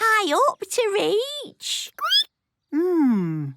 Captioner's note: squeaking